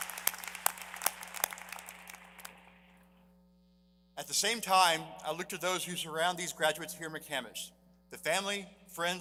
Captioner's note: applause